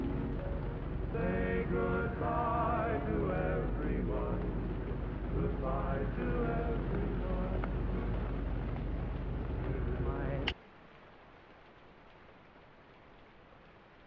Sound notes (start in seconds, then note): 10.4 gun clicks